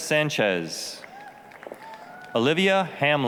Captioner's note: applause, cheering